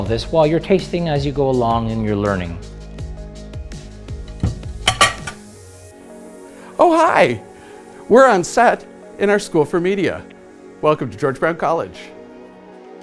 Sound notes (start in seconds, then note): 4.3 upbeat instrumental music; 4.8 utensils clanking